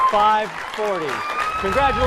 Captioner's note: cheering